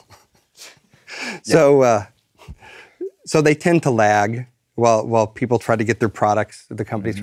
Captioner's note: laugh